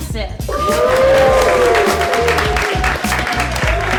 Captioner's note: young men cheering